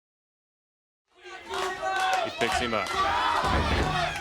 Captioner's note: crowd cheering